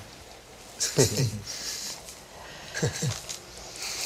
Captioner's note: man giggles